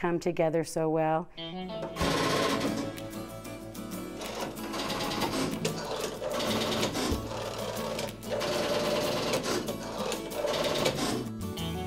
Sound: mechanical sounds

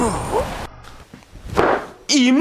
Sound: slam

